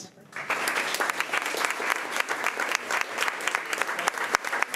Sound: crowd clapping

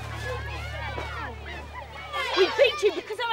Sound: crowd exclaiming

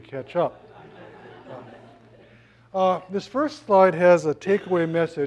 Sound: laugh

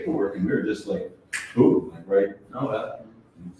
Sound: snaps fingers

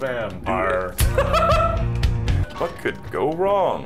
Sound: laughing

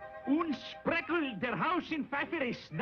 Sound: speaking German

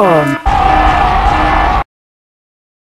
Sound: explosions and infernal screams

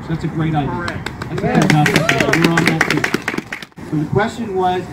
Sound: applause

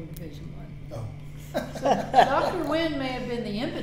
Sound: laughing

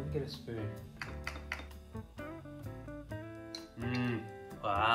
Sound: spoon clinking

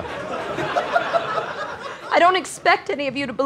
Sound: audience laughter

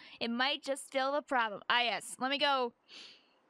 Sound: breath

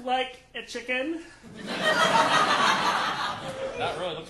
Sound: audience laughing

